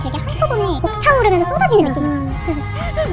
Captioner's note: sigh